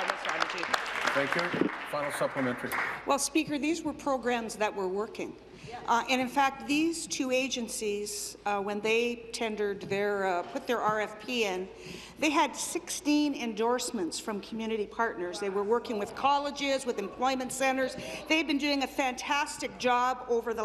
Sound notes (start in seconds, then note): 3.5 applause